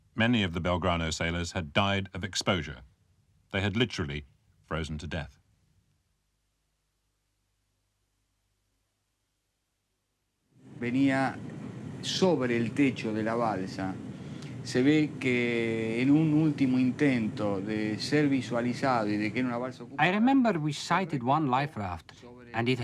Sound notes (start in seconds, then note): 10.8 man speaking in foreign language